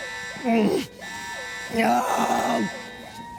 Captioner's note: groans then screams